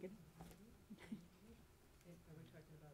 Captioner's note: chuckle